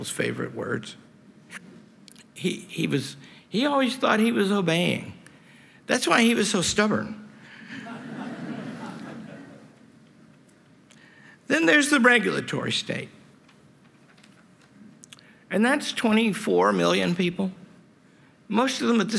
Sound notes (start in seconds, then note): 7.7 laughter